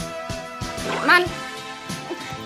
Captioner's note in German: Pflatsch